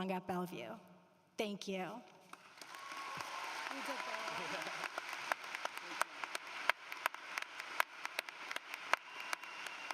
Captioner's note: cheering and Applause